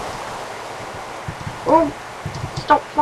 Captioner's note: spacebar clacking